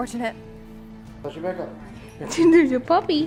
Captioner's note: male Voice